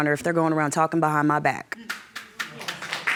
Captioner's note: audience claps